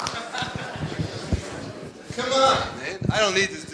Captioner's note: people chattering